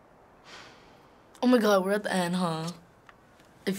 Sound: Joel sighs

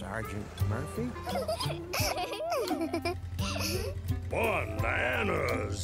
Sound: laughs

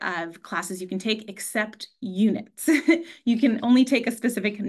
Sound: chuckles

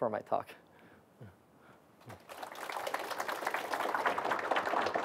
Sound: applause

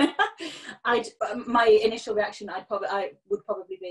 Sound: laughing

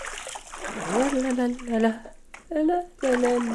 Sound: humming

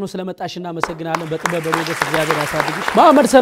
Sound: applause

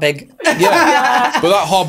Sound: laughing

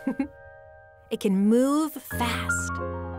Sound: laughing

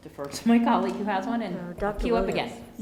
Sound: giggles

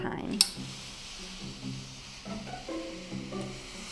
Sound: iron hisses

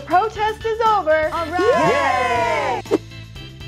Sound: women cheer

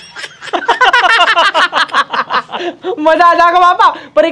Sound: laughing

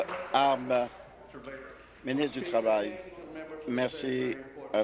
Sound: applause

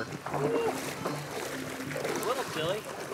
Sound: water splashing

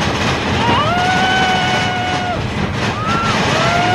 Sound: mechanical grinding; screaming

